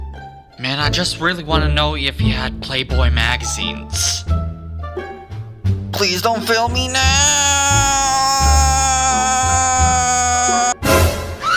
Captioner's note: he Jiafei scream when he spots Theodore